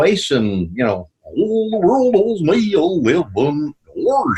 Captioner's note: In Goofy's voice